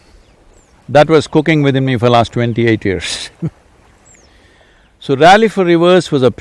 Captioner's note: laughs